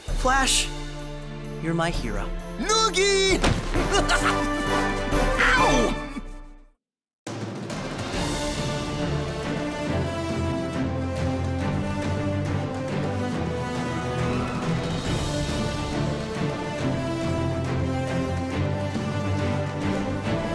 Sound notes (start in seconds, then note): 3.8 laughs; 5.1 groans